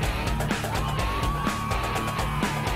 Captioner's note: shouting; instrumental music playing